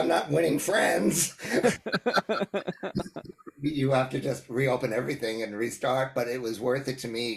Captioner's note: laugh